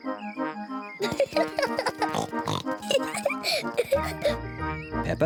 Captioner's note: giggles excitedly